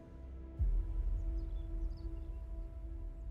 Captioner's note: bird song